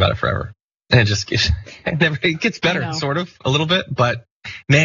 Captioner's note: laugh